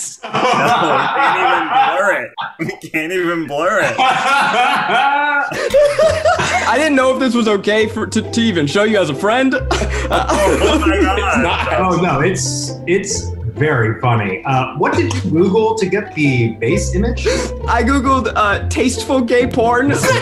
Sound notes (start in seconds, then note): 0.2 laughing; 3.9 laughing; 9.6 laughing